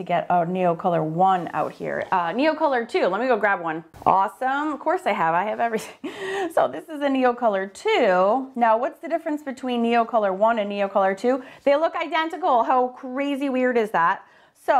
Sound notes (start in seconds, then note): 6.2 laughs